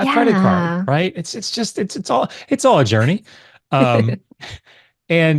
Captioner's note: laughs